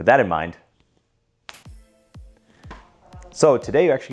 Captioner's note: fingers snapping